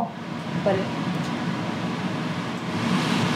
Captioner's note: air whooshing